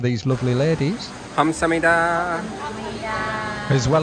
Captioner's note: ladies Speaking